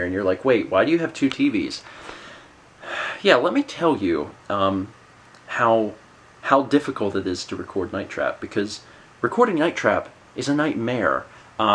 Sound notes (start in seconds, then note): 2.8 sigh